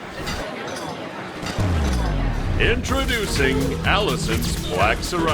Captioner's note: swooshing sound